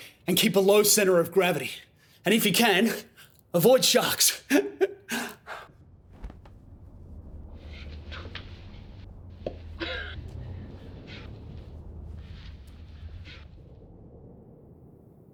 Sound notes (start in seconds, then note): 4.4 laughs; 9.6 mouth pops